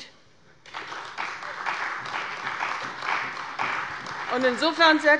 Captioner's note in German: Beifall bei der CDU und dem BÜNDNIS 90/DIE GRÜNEN